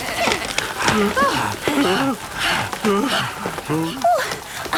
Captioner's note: barking, squeaking, bleating; all groaning and panting